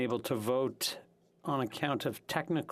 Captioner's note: speaking French